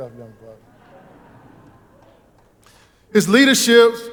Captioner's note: audience laughing